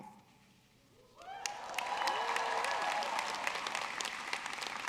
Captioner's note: audience cheering